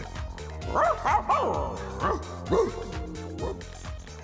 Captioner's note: dog barking